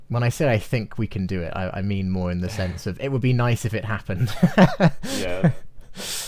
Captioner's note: chuckles